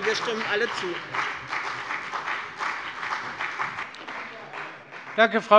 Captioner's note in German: Beifall bei dem BÜNDNIS 90/DIE GRÜNEN und der CDU